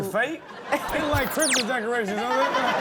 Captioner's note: audience laughs